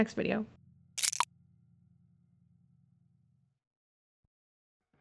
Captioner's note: object rattling